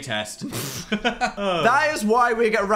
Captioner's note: hosts laugh